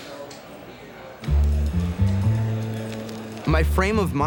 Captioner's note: people chattering